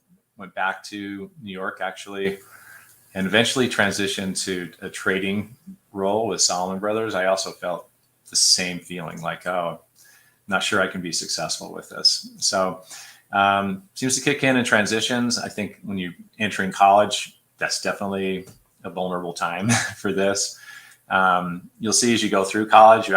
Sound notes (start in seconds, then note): 19.6 laughter